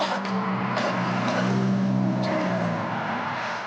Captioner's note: traffic roaring; Riley coughing